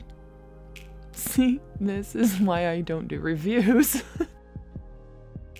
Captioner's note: laughing